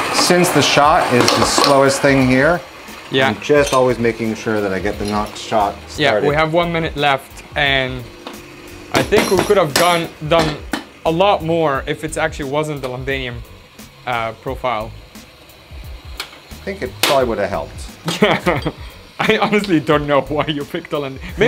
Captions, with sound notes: Since the shot is the slowest thing here, I am just always making sure that I get the next shot started. Yeah, we have 1 minute left. And I think we could actually have done a lot more if it actually wasn't the Londinium profile. I think it probably would have helped. [laughing] I honestly don't know why you picked the Londin...